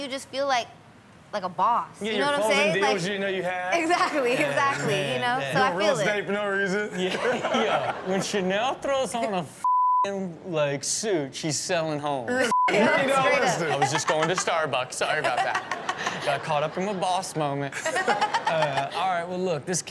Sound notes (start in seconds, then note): 4.2 chuckles; 7.0 laughs; 15.0 Chanel and audience laughing; 17.8 Chanel laughs